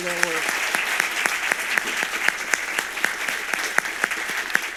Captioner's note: audience applauds